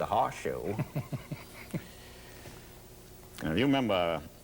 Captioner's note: laughs